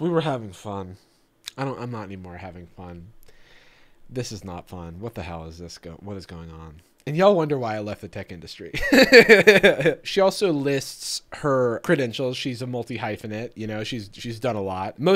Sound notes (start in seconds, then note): 8.8 laughing